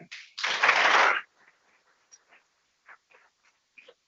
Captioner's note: people clapping